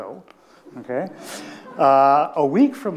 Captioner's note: attendees laughing